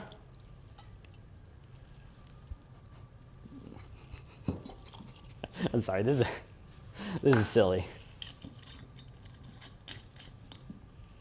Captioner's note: laughs